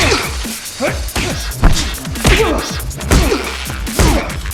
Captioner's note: both grunting; elbow pounding; both grunting; fists pounding